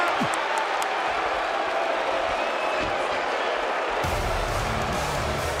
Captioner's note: crowd cheering